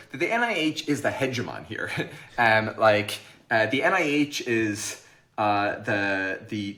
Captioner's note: chuckles